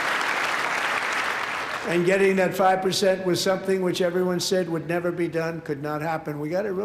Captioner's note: applause